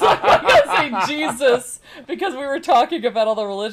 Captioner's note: laughing